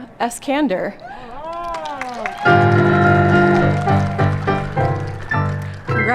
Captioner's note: applause, cheers and piano playing ♬♬